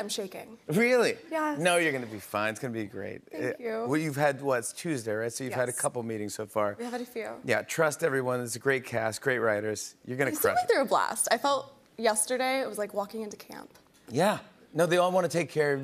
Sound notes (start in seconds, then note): none